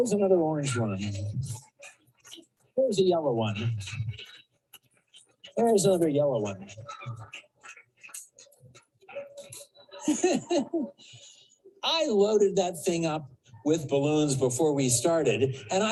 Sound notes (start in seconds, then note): 10.0 audience laughs; 10.0 laughs